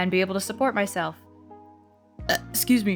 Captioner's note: burp